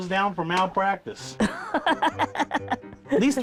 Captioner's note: laughing